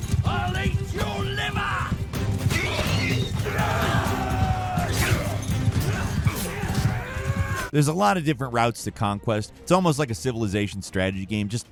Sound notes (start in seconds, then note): 2.5 warriors yelling